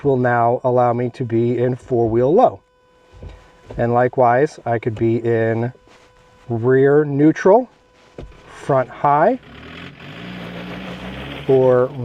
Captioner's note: engine revs up